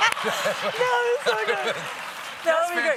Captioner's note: laughter; applause